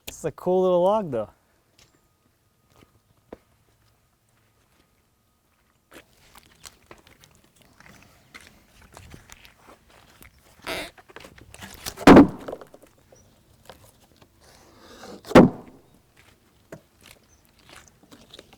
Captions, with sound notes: This is a cool little log though. (wood thuds)